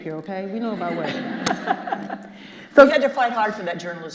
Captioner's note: Kathrine laughs